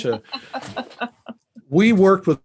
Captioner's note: laughs